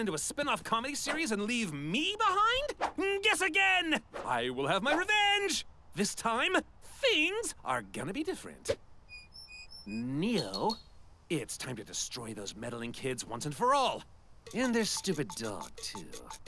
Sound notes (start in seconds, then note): 9.3 squeaky head-shake noises; 9.6 blinky eyelash noises; 14.4 head-nod sounds continue; 14.9 wooden head-nodding sounds